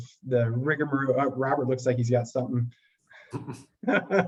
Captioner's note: laughs